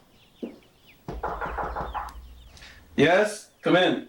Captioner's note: hand knocks